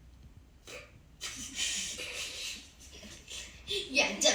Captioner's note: giggle